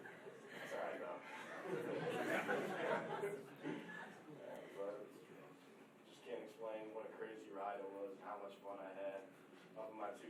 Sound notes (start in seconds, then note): 2.6 chattering